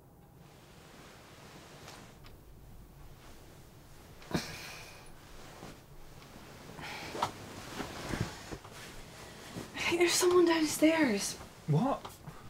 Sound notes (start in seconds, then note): 4.2 Rebecca sighs